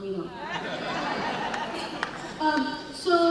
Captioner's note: laughing